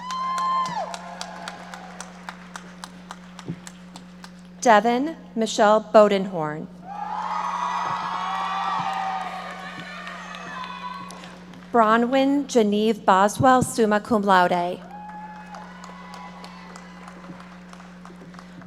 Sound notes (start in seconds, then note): 0.0 audience applauding; 6.8 audience members shouting and applauding; 14.8 audience applauding